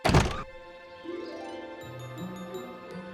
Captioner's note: birds chirp